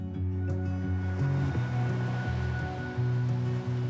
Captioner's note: waves lapping